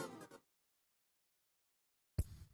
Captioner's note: silence